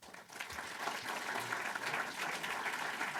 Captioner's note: applause